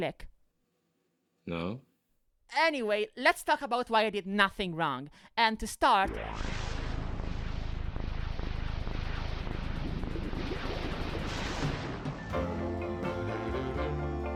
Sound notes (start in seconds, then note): 6.1 sounds of a firework